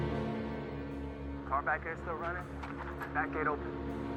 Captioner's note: officer 2 over radio